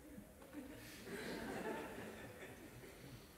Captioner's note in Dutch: gelach